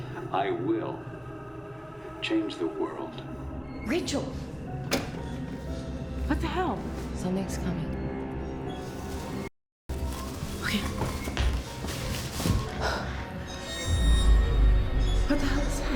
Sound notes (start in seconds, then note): 4.8 VCR clicks; 6.2 suspenseful music; 12.4 sinister music; 13.9 wheels squeaking